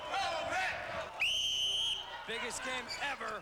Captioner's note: cheers; whistle blows